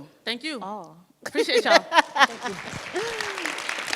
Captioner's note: laughs; audience applauds